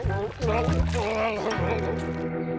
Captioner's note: gurgling